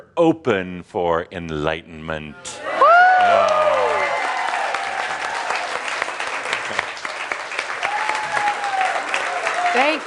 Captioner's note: cheering and applause from the audience